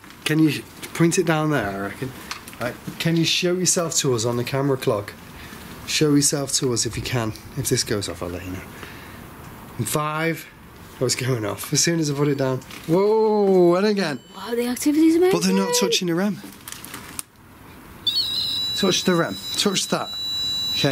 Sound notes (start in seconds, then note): 12.5 sensor beeps; 18.0 REM pod buzzes